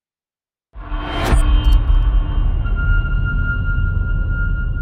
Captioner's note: dramatic sound